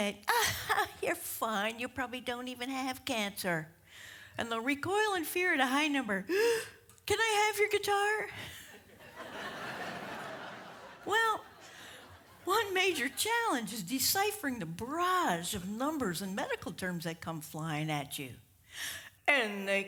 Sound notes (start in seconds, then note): 8.3 gasp; 8.9 audience laughs